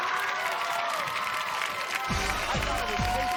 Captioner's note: cheers and applause